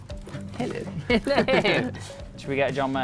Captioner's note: laughing